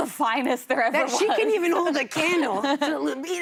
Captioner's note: laughter